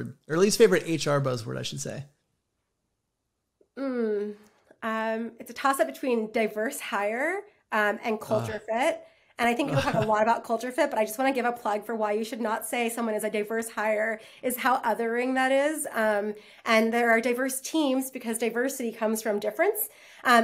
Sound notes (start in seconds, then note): 9.6 laughs; 9.7 groans